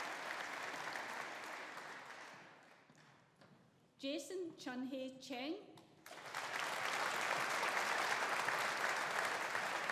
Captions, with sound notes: Jason Chun Hay Cheng. (AUDIENCE APPLAUDING)